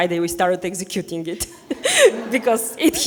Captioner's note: people laughing